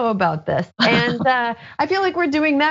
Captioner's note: laugh